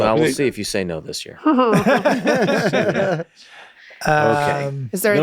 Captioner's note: all laughing softly